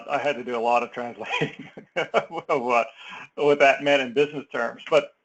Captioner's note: laugh